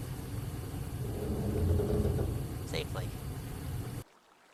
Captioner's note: metal groans. The machine is displeased